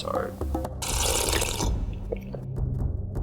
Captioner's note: sipping sound